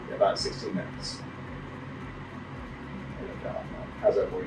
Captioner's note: machine whirring